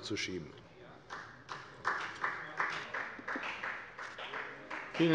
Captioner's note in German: Beifall bei der FDP